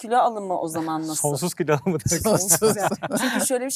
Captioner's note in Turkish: kahkaha